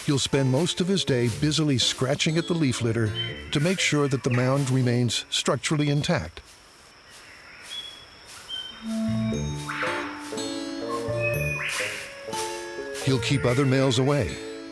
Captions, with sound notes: he'll spend most of his day busily scratching at the leaf litter to make sure that the mound remains structurally intact. [leaves rustling] [playful guitar music] He'll keep other males away,